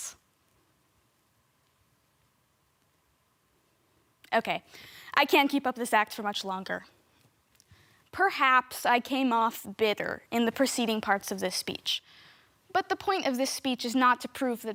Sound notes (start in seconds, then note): 0.0 silent; 7.6 soft breathing